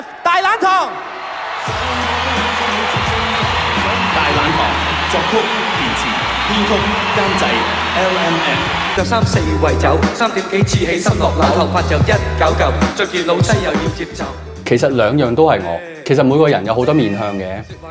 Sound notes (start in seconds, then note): 1.4 applause